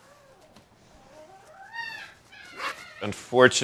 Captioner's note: dogs barking